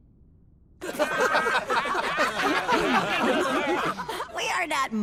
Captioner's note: all laughing